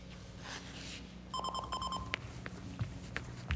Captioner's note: phone ringing